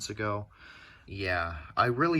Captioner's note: inhale